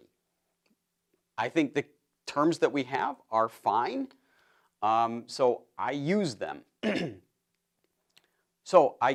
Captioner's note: cough